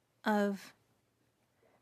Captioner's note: speaking in French